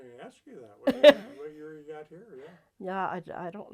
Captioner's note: laughs